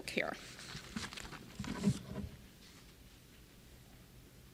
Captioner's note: pages rustling